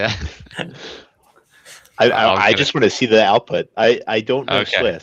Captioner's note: laughs